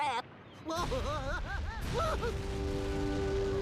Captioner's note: Daffy screaming